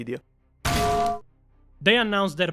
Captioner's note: clang